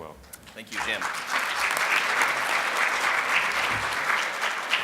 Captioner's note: crowd applauds